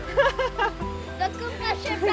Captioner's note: laughing